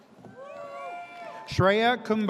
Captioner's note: audience cheers